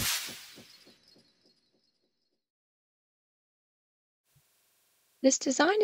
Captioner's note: sound effect